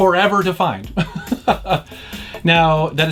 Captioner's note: laughs